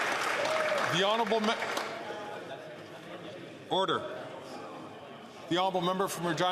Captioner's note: some Applause